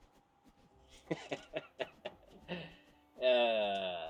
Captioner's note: maniacal laughter